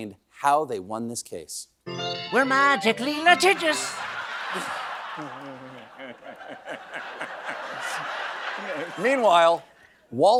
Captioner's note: laughter